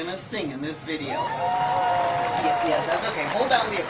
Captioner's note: cheering